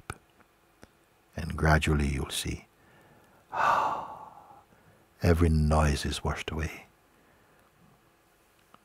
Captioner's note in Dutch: blaast uit